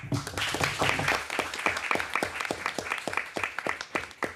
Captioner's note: everyone applauding